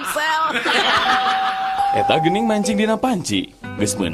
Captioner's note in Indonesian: tertawa